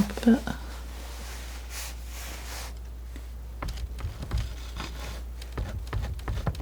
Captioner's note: scratching